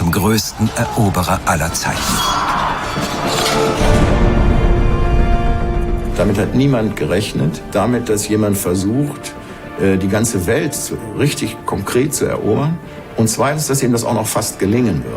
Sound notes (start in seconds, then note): 2.7 yelling; 5.9 in German